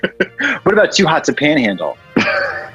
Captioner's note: laughs